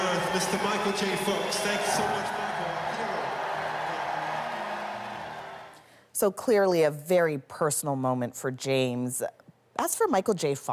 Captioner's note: cheers and Applause